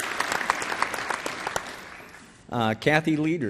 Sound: applause

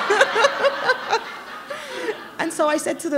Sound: laughter

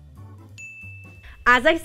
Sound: bell rings

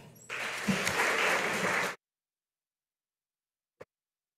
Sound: audience applauding

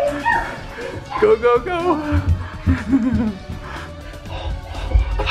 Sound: laughs

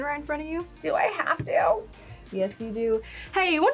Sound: in "Southern" accent

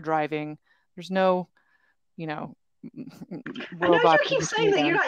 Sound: speaks faintly

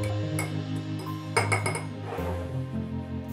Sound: fork clanking

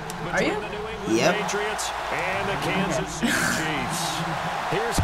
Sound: chuckles

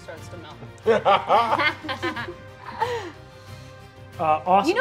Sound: players laughing

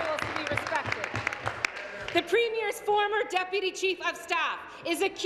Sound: applause

